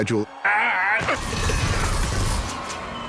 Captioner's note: grunting